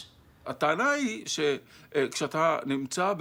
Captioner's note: in Hebrew